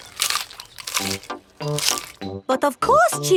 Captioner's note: munching